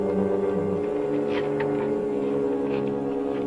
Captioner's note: rattling